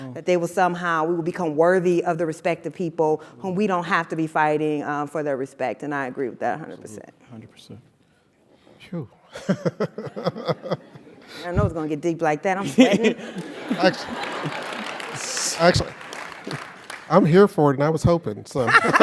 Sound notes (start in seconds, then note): 9.4 laugh; 13.3 applause; 18.6 laugh